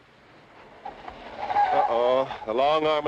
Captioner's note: engine revs; tires squealing